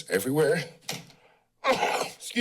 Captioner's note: coughs